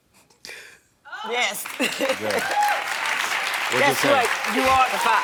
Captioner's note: audience cheering